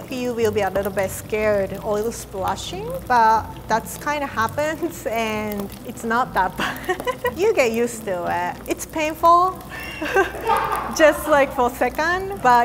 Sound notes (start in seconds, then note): 9.8 laughter